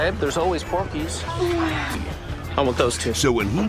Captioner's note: moan sounds